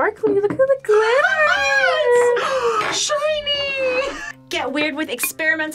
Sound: squeals and gasps

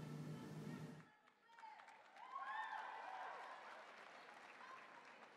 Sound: audience cheering

